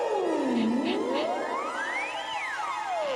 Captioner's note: sniffing